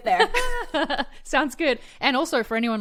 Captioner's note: laughs